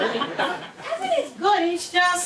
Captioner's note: laughing